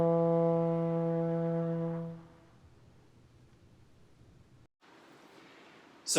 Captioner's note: music stops